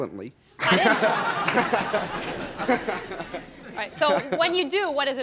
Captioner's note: audience laughs